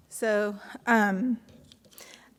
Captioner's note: none